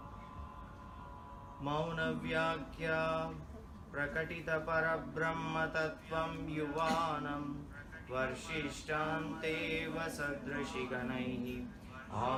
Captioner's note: chanting